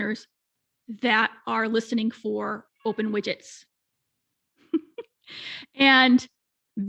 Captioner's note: laughing